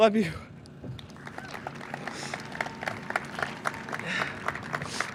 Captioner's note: audience claps